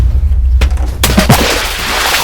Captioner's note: trip. SPLASH!